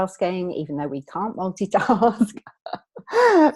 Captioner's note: laughing